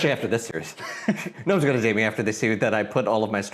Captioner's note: chuckles